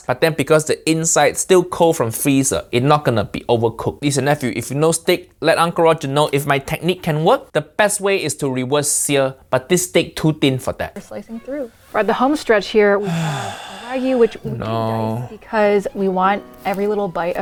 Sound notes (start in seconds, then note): 13.0 Uncle Roger exhales deeply